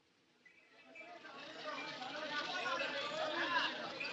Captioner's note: people Chattering